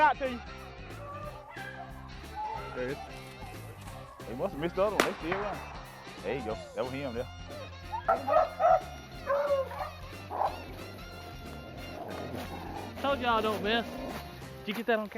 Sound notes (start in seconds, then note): 7.5 dogs barking